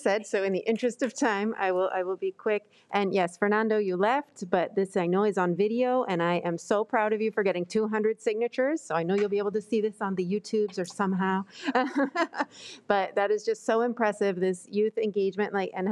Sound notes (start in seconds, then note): 11.7 laughs